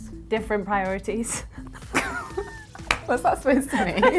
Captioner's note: laughing